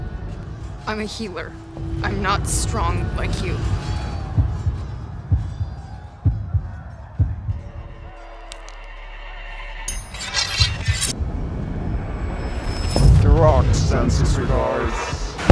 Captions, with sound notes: I'm a healer. I'm not strong like you. [heartbeat] [neck cracking] [metal scraping] Deroc sends his regards.